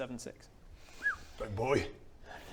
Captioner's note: whistle